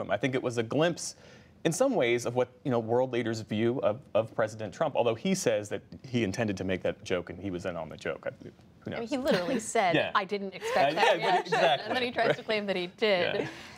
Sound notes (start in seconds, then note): 10.6 laughter